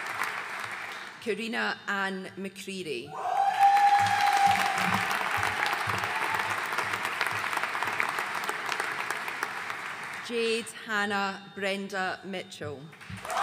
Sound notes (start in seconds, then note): 3.2 audience cheering and applauding